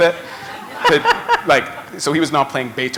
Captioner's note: laughter